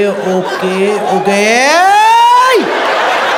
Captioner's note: imitating angry doctor